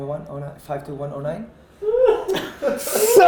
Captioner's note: laughter